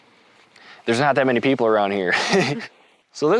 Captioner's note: laughs